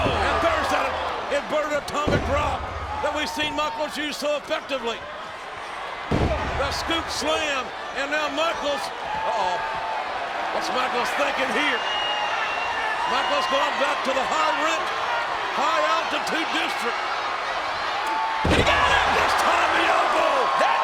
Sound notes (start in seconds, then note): 6.1 body thuds; 9.5 audience cheering and shouting